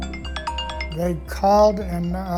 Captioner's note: phone ringing